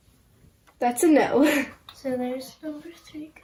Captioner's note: chuckles